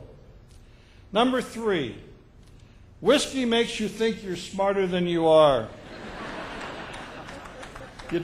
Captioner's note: laughter